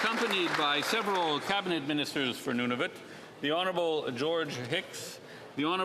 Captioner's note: applause